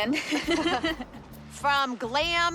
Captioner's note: both laugh